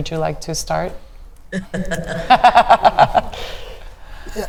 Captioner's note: speakers laughing